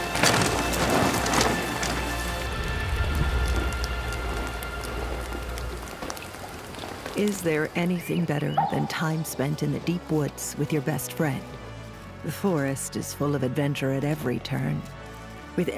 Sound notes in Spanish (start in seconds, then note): 0.2 ruido de la bicicleta; 2.7 agua chapoteando